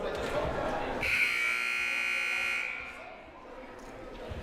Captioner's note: buzzer blaring